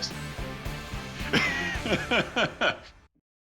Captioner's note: laughing